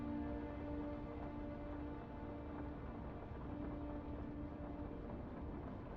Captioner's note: soft somber music; rain pattering